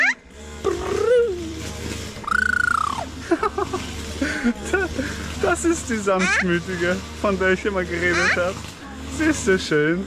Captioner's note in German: gelächter